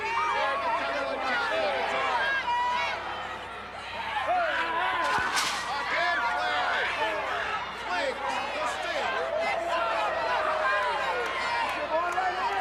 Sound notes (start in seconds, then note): 0.3 crowd cheering drowning out commentator; 5.0 Sting thudding into railing; 9.7 crowd cheering